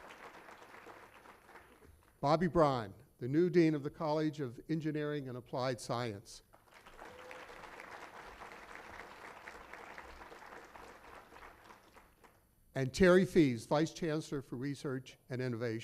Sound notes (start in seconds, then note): 6.5 applause